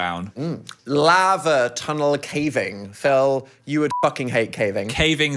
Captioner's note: beep